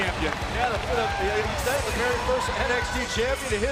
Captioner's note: crowd cheering